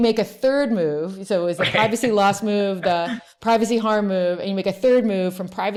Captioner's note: laughs